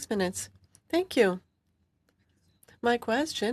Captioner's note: speaking French